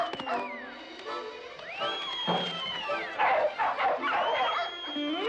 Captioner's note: whistling continues; barking